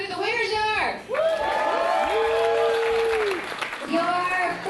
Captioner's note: cheering and applause